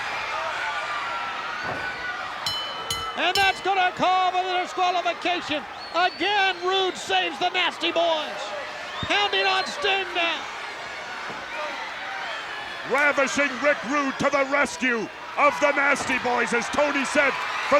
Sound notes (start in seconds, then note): 0.2 crowd cheers; 2.4 bell dings